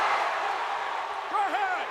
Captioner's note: spectators cheering